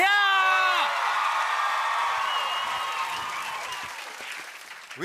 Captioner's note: cheers and applause